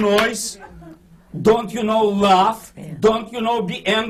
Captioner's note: clapping